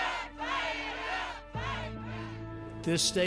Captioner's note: crowd